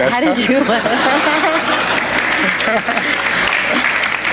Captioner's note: audience laughing